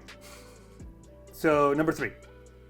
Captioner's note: sniggering